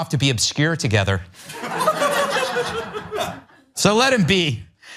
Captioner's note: laugh